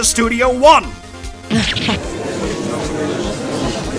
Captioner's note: gallery chattering; surprised grunt!